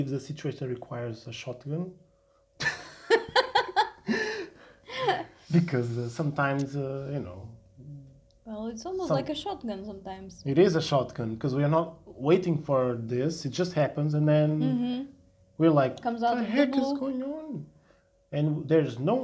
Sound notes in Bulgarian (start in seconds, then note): 2.6 Смях